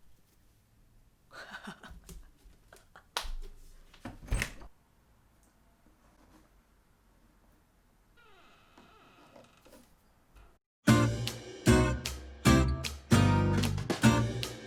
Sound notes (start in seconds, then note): 1.3 laughing; 8.2 door creaking; 10.8 upbeat instrumental music